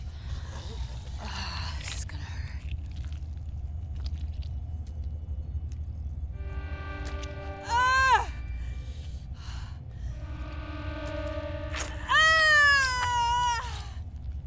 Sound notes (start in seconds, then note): 7.2 Lock screaming; 7.2 flesh squelching